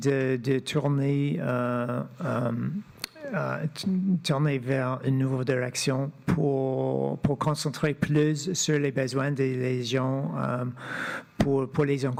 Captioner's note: speaking French